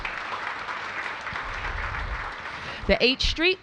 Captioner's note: applause